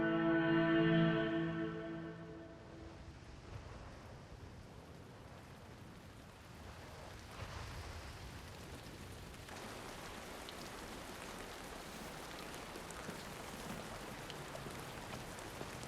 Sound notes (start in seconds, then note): 7.7 gentle rain splashing